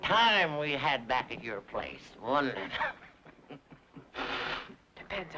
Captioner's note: chuckles